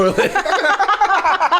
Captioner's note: laughing